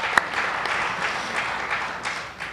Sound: applause

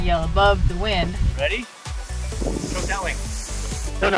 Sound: wild howling

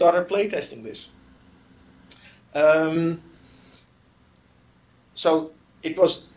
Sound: pause

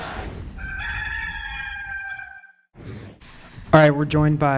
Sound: gamecock crowing

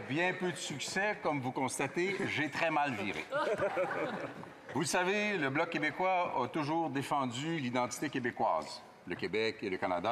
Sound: laughter

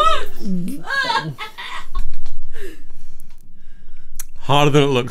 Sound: laughing

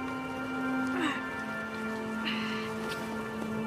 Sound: groans

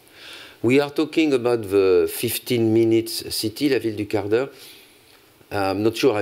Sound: french

